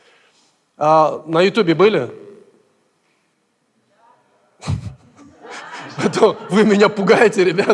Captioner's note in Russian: смеется; смех в зале